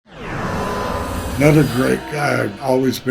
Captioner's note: loud energetic noises